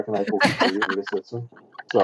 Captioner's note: laughter